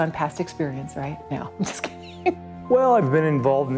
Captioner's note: laughs